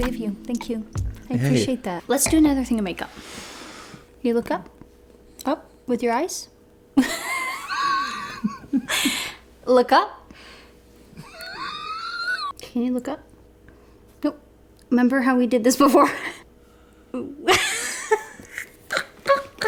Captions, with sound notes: - That's sweet of you, thank you. I appreciate that. Let's do another thing in makeup. Can you look up, up? With your eyes? (laughs) Look up? (laughs) Can you look up? No, remember how we did this before? (laughs)